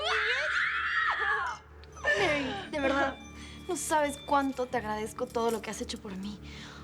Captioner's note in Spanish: Gritos